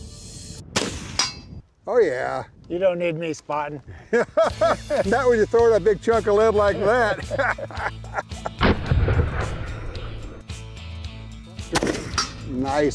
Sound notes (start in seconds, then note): 0.6 gun fires, hits steel target; 3.9 laughs; 6.7 laughs; 8.6 gun fires twice